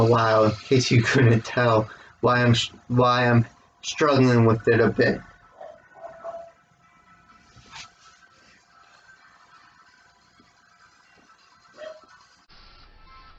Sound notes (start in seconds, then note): 0.9 chuckles; 5.5 dog barks in background